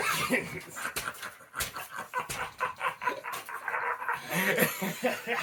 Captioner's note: both laughing maniacally